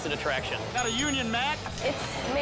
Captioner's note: bell dings